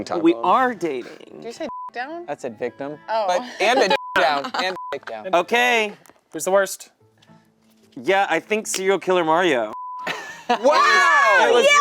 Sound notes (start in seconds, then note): 1.6 beep; 3.7 beep; 9.7 beep